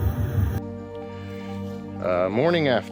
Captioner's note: birds chirping